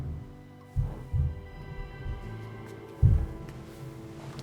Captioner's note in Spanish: ruidos sordos